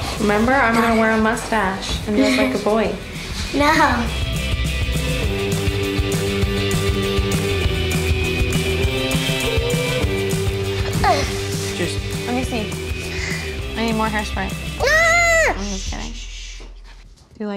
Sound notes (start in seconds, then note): 5.0 upbeat music; 11.1 grunts